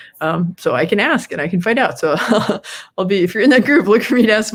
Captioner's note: laughs